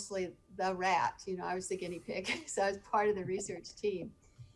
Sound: chuckling

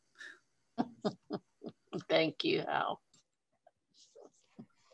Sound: laughs

